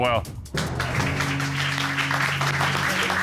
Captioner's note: audience applauding